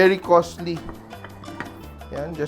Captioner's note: clang